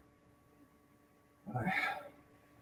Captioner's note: deep sigh